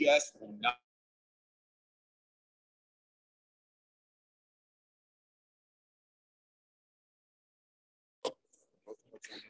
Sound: lost audio

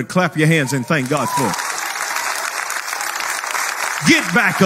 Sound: people clapping

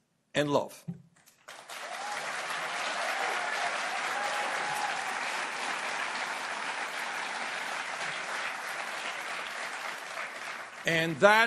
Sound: applause

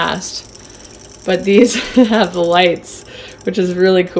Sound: laughs

